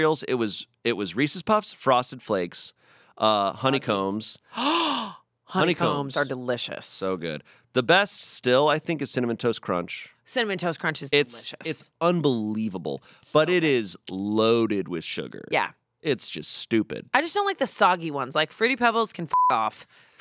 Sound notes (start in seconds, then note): 4.6 gasps; 19.3 beep